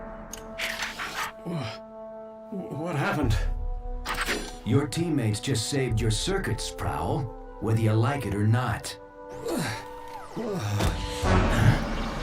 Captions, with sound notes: What... What happened? Your teammates just saved your circuits, Prowl. Whether you like it or not. (GRUNTS) Huh?